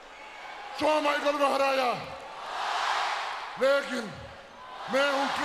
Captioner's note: The Great Khali speaks Hindi